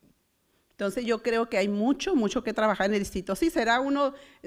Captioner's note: foreign language